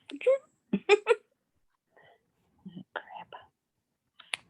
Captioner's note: woman laughing